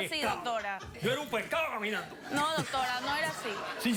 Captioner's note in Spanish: risas